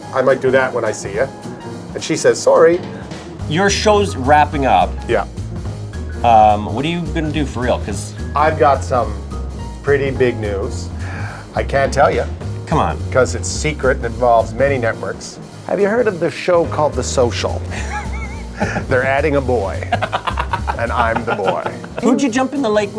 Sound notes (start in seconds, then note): 19.7 laughs